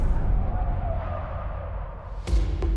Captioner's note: tires screeching